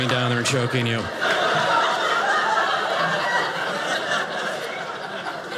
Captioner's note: audience laughing